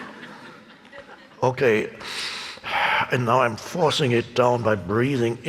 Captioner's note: audience laughing; breathing heavily